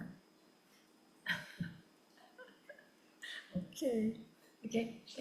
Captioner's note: laughs